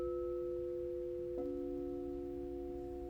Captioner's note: bell dings